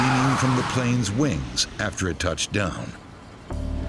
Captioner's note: jet whooshes